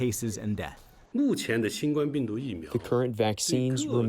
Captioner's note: through translator